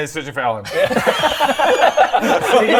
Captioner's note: victimised laugh